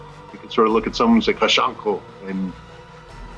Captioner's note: speaks in Sangheili